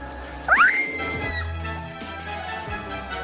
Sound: screams; intense music

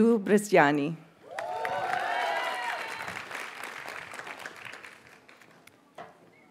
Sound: audience cheers and applauds

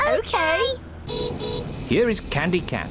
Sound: horn beeps

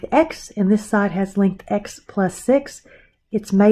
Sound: exhales

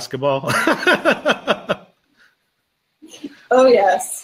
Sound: laughing

